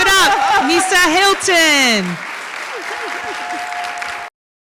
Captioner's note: audience claps and cheers